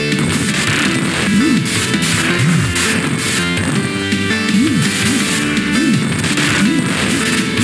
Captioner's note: a sword slash